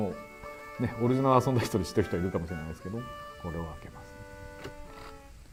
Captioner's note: laughing